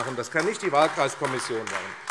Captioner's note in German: Beifall AfD